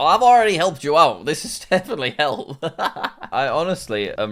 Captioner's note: laughs